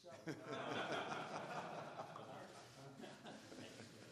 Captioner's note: laughter